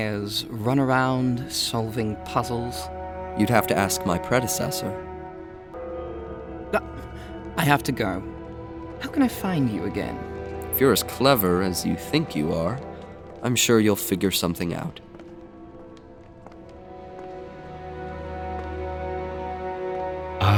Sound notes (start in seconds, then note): 5.7 distant bell chimes; 18.0 transitional music